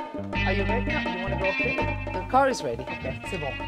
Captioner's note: speaking in English